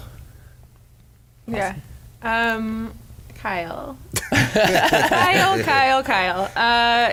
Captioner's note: laughs